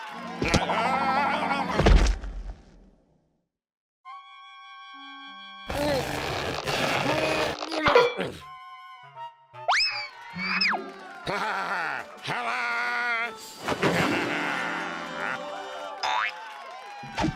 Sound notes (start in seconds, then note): 0.0 cheers and applause; 1.8 thud; 5.7 straining; 15.5 cheers and applause